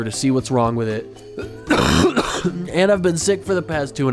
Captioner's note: coughing